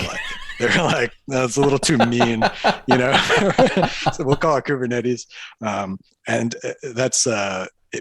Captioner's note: laughter